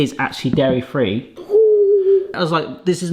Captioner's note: gasps